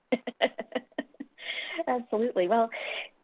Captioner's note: laughing